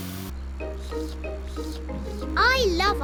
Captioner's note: slurping